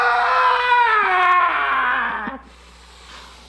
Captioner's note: screaming